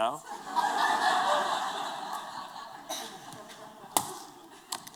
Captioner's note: laughter